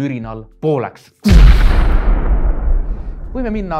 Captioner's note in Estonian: plahvatus